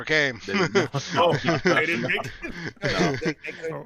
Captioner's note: group chuckles